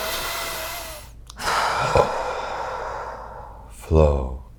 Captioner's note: exhaling; inhales